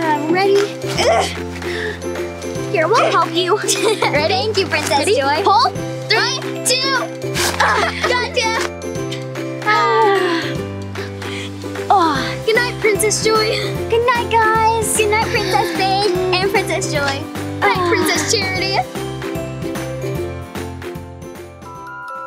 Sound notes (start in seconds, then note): 0.0 upbeat playful music; 0.9 grunts; 7.2 grunts; 8.8 upbeat playful music; 9.6 sighing; 19.0 upbeat playful music